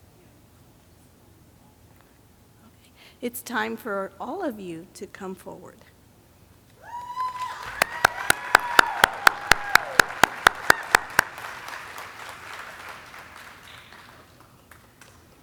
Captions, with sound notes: Okay, it's time for all of you to come forward. (audience cheering) (audience clapping)